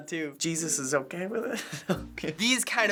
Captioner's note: laughing uncomfortably